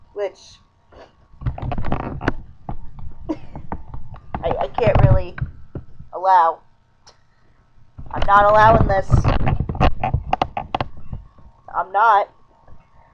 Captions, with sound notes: Which... (creaking, soft chuckle) I-I can't really allow. I'm not allowin' this. (creaking as I adjust position) I'm not.